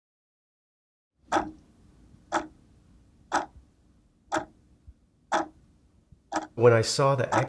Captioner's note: clock Ticking